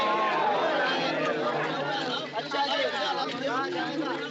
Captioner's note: crowd Exclaims; chattering